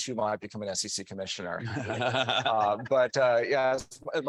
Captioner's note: chuckling